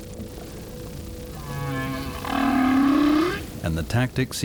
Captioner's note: whale calling